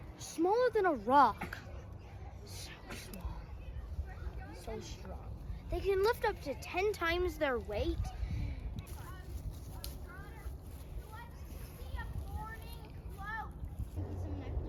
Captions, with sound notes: Smaller than a rock. So strong they can lift up to ten times their weight. (BACKGROUND CHATTER)